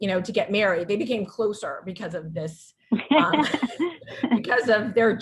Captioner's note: chuckles